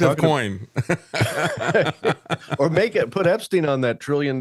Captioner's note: laughing